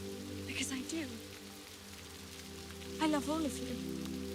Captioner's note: gentle music; rain spattering